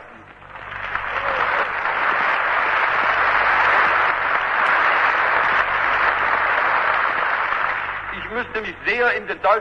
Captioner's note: applause